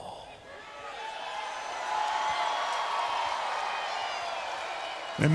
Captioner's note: crowd cheering